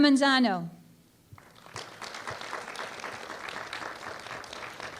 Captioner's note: applause